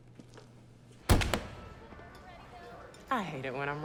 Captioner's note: car door thuds